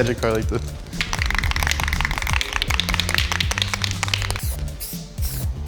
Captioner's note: paint can rattles